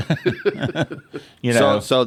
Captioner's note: laugh